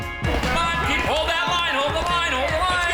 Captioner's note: airy music; people chattering distantly